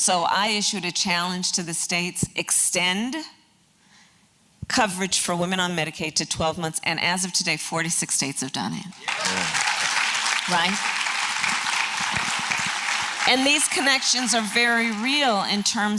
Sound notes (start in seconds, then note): 8.9 applause